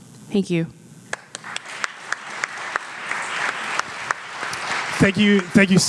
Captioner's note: audience applauds